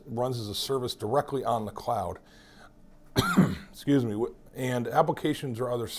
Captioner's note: coughs